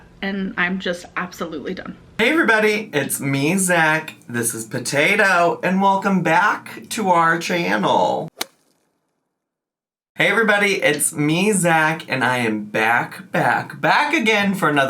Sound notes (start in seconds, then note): 8.3 logo thuds